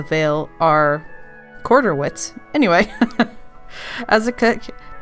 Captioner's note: laughs